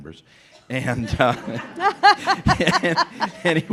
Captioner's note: laughter